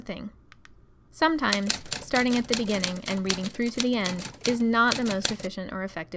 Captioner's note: typing